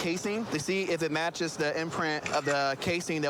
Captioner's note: camera app clicks